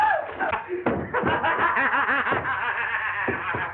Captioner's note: maniacal Laughter